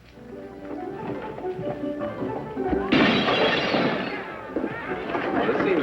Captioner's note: gunshot, glass shatters; up-tempo music playing